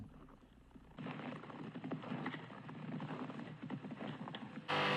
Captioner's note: footsteps crunching